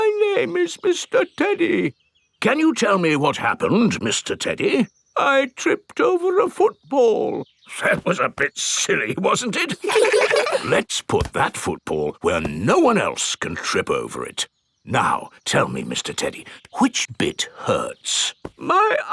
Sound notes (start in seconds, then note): 0.0 in normal voice; 0.3 in teddy's voice; 2.8 in normal voice; 5.6 in teddy's voice; 8.3 in normal voice; 9.6 kids laugh